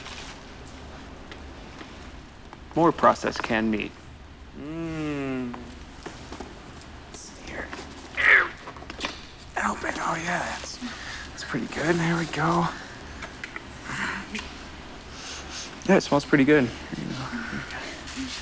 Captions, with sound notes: more processed canned meat. Mmm. Let's see here. (grunts) Oh yeah, that's pretty good. Here we go. Smells pretty good.